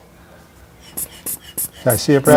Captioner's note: bulb pumping